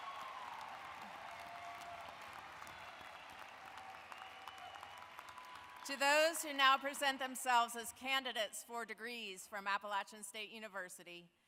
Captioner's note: cheering and applause